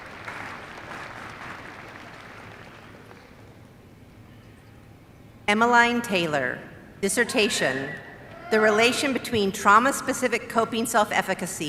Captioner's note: applause